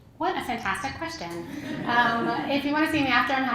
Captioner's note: laugh